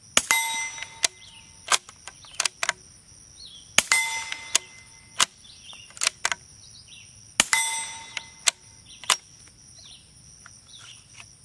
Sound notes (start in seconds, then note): 0.2 metal ding and gun reloading; 7.4 metal ding and gun reloading